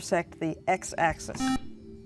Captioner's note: beeping